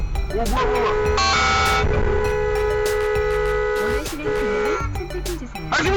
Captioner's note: honk